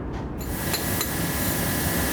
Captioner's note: whirring